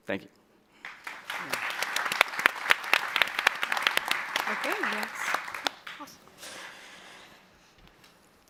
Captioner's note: applause